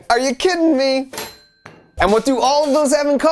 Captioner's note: toaster dings